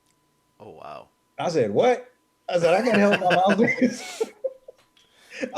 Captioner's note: both laughing